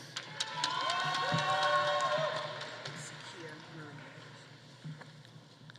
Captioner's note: audience applauding; audience cheering